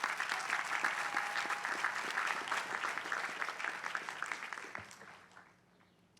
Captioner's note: applause